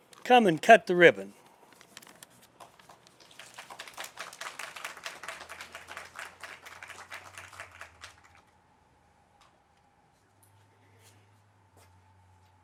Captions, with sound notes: come and cut the ribbon. (audience clapping)